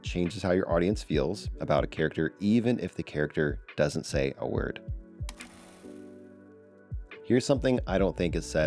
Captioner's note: camera Clicks